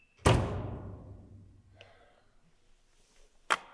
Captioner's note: door creaking; door bangs